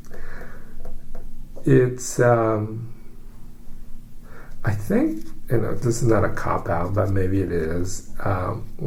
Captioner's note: sighs, pause